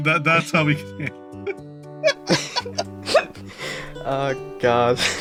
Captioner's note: both Laughing